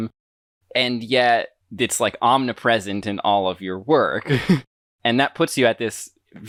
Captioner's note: laughs